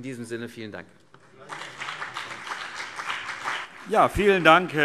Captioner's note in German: Beifall CDU und BÜNDNIS 90/DIE GRÜNEN